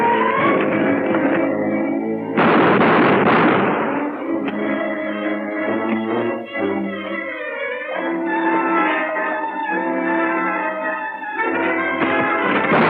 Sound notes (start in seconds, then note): 4.4 click